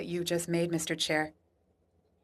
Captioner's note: speaking French